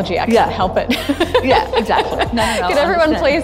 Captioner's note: laughs